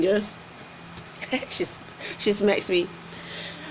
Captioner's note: laughs